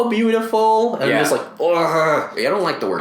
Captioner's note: shudders